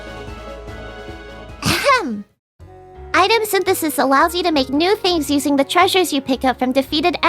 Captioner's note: ahem